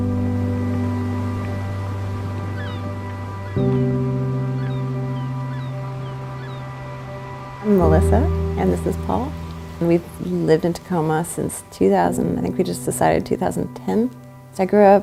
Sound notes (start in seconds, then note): 0.1 light inspirational music; 3.7 seagulls cawing